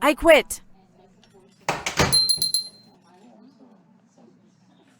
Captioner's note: door slams, bell jingles